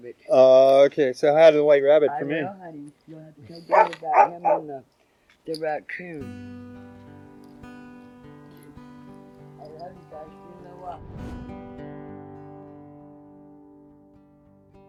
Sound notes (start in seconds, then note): 3.6 dogs barking drowns out speaker; 6.0 slow guitar music